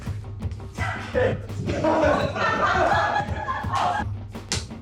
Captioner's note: laughter